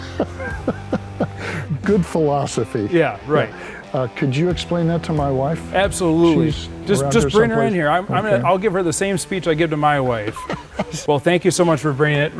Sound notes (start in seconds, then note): 0.0 laughs; 9.8 laughs